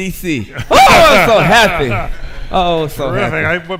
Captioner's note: laughs